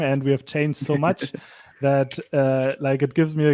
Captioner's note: laughs